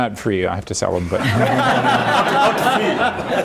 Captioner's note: laughter